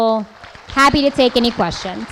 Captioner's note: applause